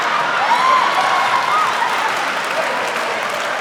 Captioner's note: laughing; applause